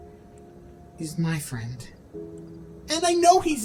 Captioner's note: quietly